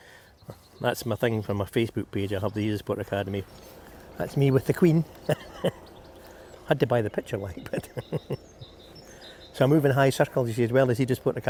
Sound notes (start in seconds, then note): 5.1 chuckles; 7.6 chuckles